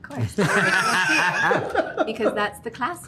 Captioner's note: laughter